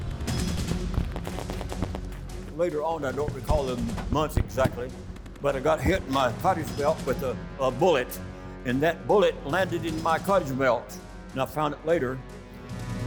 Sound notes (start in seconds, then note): 2.4 gunshots firing